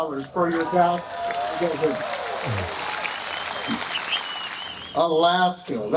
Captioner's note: audience cheering and applauding